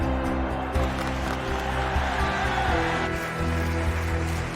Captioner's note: bersorak masyarakat; tepuk tangan